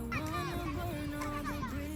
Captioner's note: kids shouting